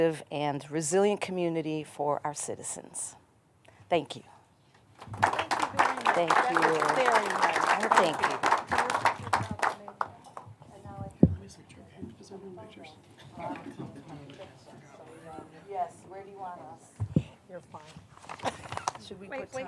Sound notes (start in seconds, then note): 8.1 applause